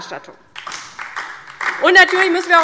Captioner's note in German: Beifall DIE LINKE